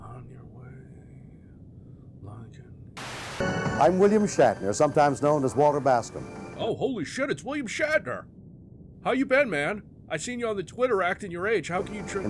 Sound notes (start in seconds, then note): 0.1 quietly; 3.0 static burst